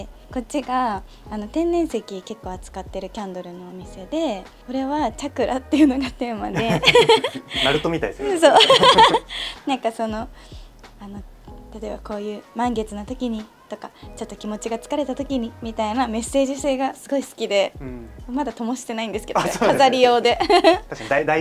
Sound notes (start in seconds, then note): 8.2 laughs